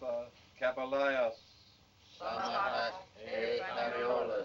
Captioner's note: chanting In Foreign Language